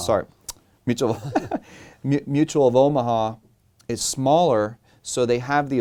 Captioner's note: chuckles